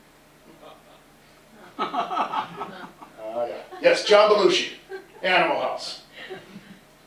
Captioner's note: laughter